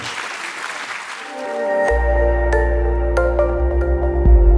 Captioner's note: applause